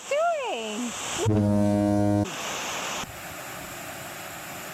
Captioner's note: foghorn blaring; water gushing